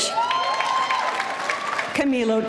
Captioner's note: audience cheering